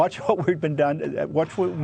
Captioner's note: laughter